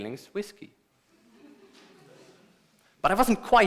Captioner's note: laughter